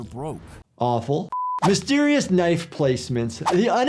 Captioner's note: beeps